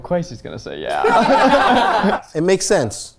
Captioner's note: all laughing